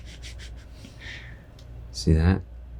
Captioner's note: snickering